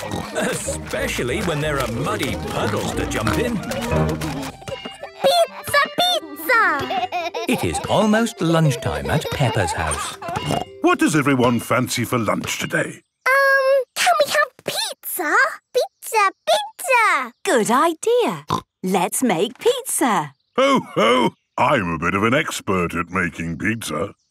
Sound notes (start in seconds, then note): 6.2 laughing